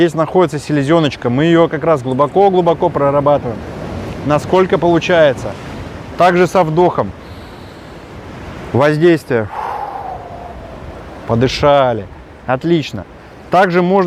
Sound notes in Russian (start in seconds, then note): 9.4 Выдох; 9.4 Вдох